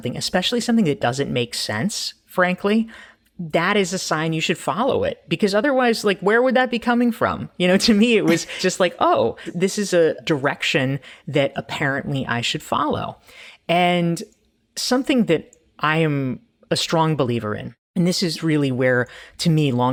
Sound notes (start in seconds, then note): 8.2 chuckling